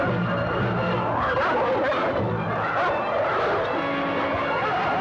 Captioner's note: dogs barking